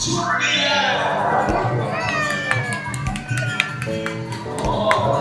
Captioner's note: applause